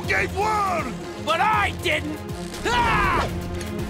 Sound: grunting

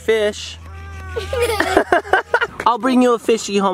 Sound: laugh

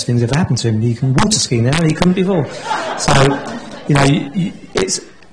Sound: laughter

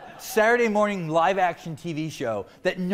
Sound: laughter

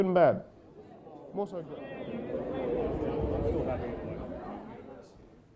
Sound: crowd of people intensifies

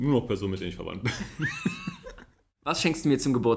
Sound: laughs

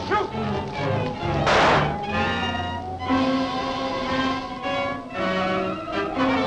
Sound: dramatic music; shot fires

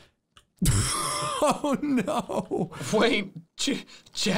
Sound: laughs

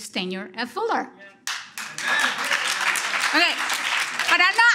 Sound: audience applause

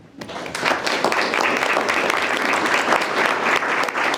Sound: group applauding

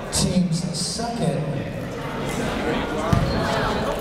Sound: chatter

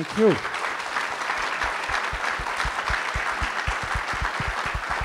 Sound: audience applauds

